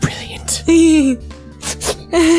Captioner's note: whispers; sniffles; laughs